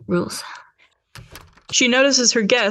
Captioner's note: door closes